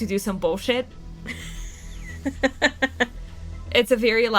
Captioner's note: laughs